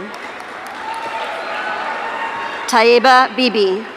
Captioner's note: audience cheering